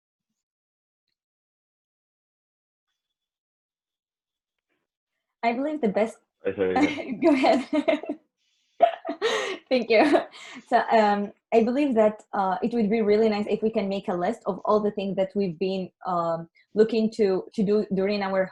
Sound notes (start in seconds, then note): 6.5 laughs